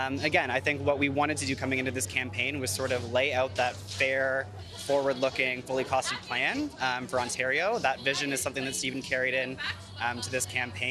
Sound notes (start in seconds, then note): none